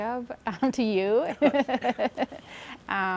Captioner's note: laughs